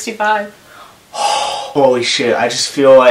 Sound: sighs

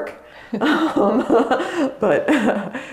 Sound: both laugh

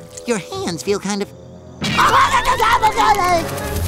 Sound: screaming

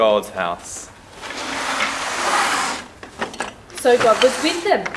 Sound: Legos scraping

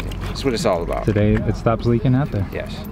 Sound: male Voice

